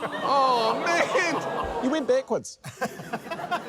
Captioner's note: laughter